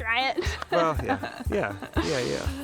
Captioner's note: chuckles